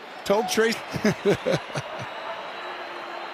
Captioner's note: Tony chuckling